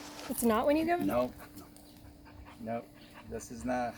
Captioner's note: in Unison